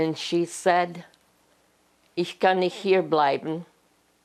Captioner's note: german